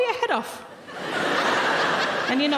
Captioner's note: audience laughing